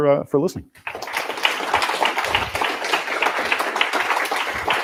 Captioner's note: applause